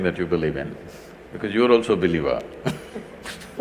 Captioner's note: laughs